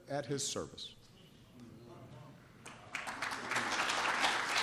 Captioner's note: applause